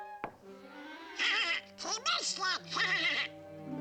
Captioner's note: laughing